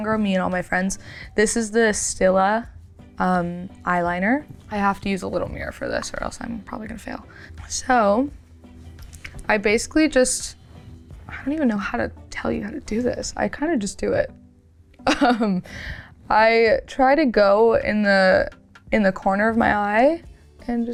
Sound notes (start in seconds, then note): 15.0 chuckles